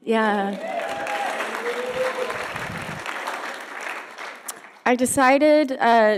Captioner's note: audience applauding and cheering